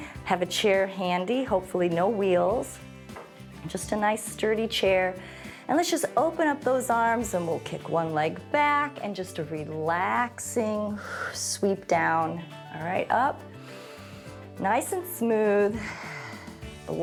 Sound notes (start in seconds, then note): 10.8 exhales; 13.5 inhales; 15.7 exhales